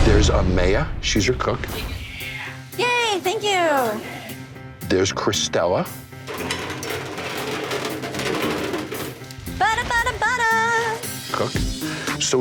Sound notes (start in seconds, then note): 3.8 suspenseful music; 6.2 trolley clanking